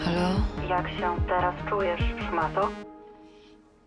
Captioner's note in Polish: kobiecy głos